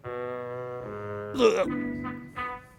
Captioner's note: imitates sound of vomiting